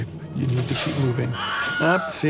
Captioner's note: Wilhelm Scream